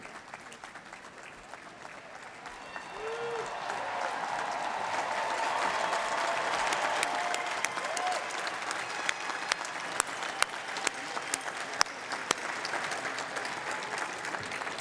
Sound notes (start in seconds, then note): 5.8 crowd roaring